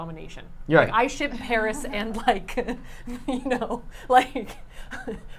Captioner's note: laughing